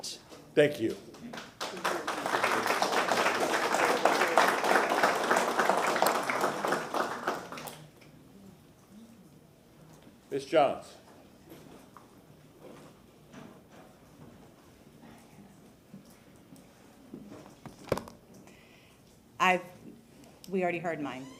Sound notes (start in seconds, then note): 8.8 applause